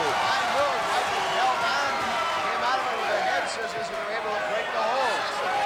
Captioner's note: audience cheering and chattering